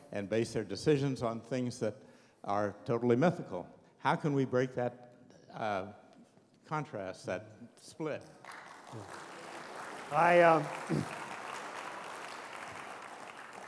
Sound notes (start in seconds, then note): 8.2 applause